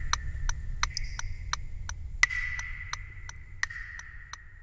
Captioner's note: water drips